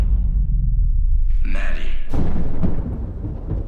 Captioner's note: thunder rumbles